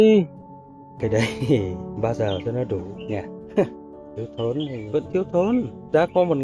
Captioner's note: laugh